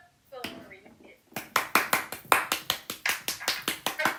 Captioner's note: starts to clap randomly